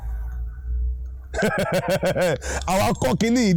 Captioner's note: laughing